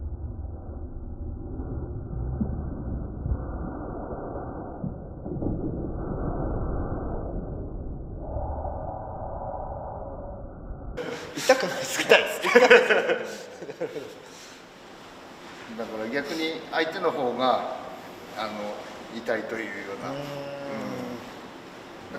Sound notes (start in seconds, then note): 11.0 laughs